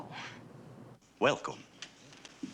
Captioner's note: in Transylvanian accent